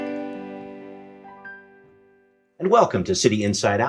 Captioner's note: music stops